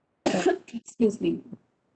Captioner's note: coughs